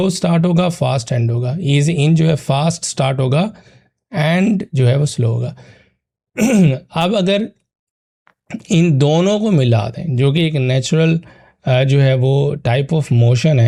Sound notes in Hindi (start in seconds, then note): 6.3 गला साफ़ करने की आवाज़; 6.3 खांसने की आवाज़